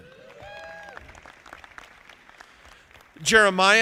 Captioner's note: audience applauding